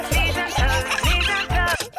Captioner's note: giggling; music stops